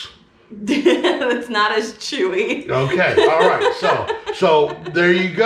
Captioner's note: laughing